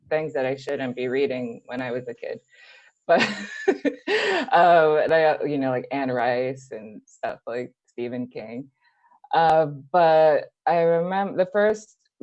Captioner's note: laughs